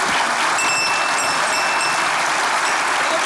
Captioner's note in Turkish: Zil sesi